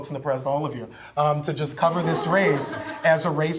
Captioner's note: reporters laugh